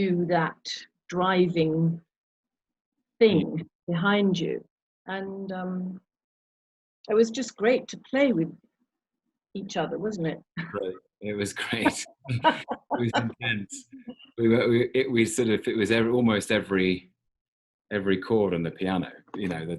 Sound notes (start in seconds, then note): 11.3 chuckling; 11.6 laughing